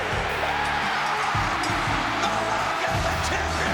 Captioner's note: crowd cheering